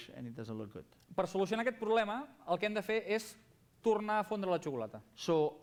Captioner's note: non-english speech